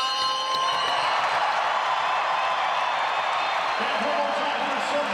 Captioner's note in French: applaudissements